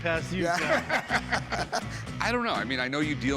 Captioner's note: laughter